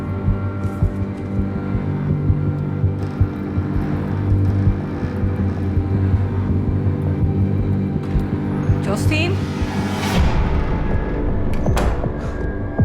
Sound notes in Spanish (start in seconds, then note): 3.0 Crujidos al abrir la puerta